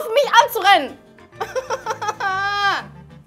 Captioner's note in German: Leidende Laute